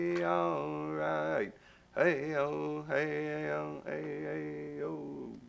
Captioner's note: chants